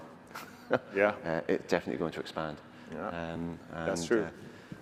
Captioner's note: laughs